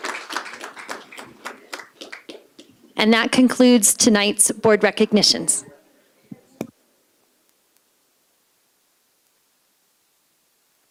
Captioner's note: applause